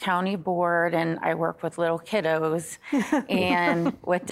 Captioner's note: laughing